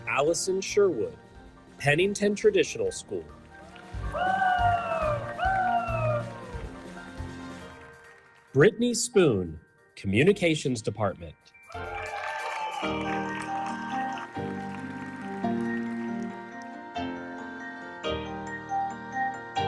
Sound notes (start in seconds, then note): 3.4 audience applauding; 3.6 audience cheering; 11.7 audience cheering; 11.7 audience applauding; 16.1 bright music continues